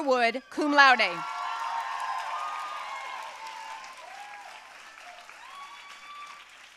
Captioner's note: audience cheering and applauding